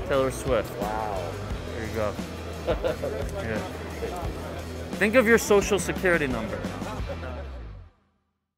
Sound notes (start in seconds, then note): 2.5 participant laughs